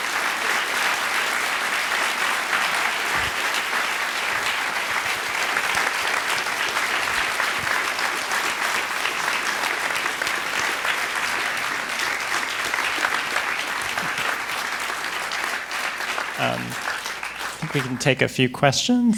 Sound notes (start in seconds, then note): 9.1 applause